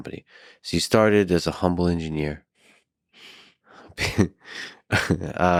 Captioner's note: laughs